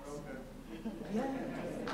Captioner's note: laughter